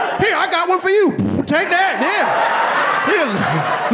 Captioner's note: farts; audience laughing